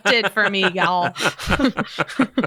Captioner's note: laughter